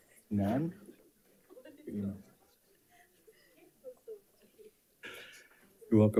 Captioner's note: panelists chattering